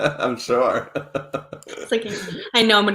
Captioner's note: laughs